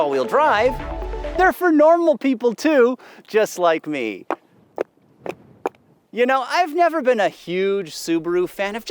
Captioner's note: wooden clogs clacking